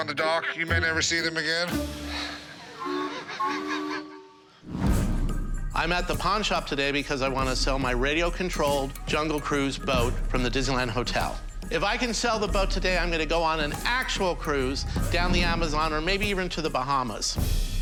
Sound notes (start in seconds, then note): 2.3 laughs; 2.7 boat whistle blows